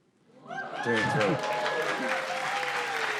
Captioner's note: cheers and applause